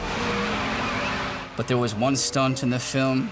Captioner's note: tires screeching